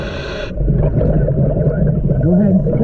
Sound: deep breathing; bubbles churning

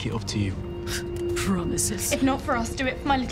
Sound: Sol scoffs

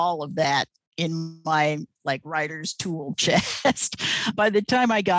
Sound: laughs

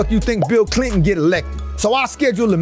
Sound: picture pops

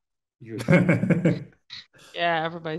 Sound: laughing

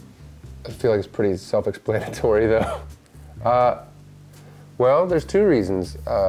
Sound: laughs

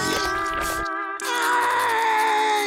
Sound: crying

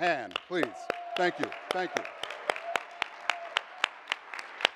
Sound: all clapping

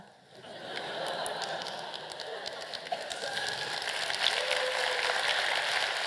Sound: laugh and applause

